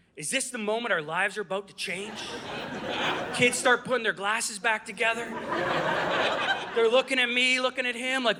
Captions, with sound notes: is this the moment our lives are about to change?” (Audience laughing) Kids start putting their glasses back together. (Audience laughing) They're looking at me, looking at him like,